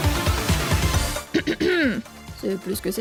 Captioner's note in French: se racle la gorge